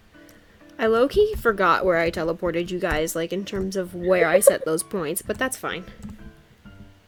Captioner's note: giggles